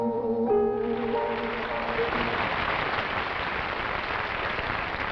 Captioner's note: applause